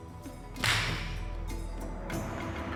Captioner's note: thumps